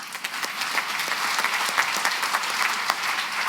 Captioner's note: applause